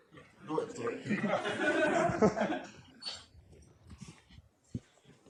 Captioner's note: laughter